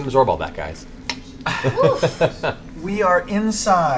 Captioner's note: laughs